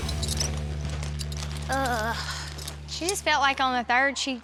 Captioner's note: groans